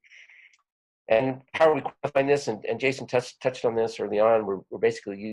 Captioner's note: audio warps